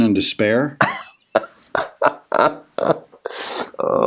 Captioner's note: laughs